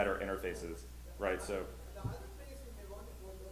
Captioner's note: voiceover